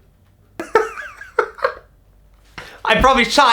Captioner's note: laughing